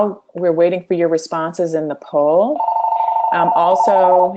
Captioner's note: phone ringing